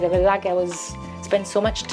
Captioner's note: speaks foreign language